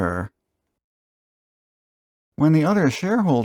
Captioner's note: dramatic pause